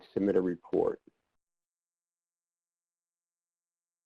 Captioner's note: silence